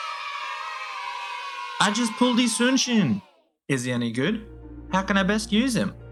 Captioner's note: cheer